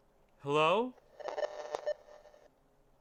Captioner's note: signal interference